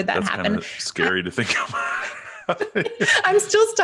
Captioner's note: both laughing